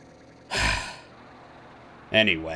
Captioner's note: sigh